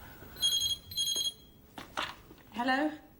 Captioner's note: phone rings